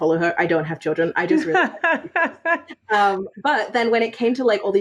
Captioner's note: faintly speaking; laughs